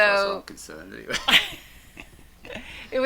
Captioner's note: laughs